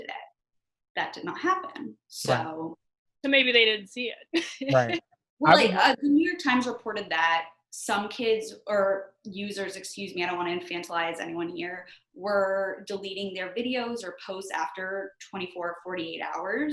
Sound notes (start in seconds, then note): 4.4 chuckles